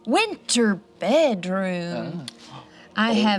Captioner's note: none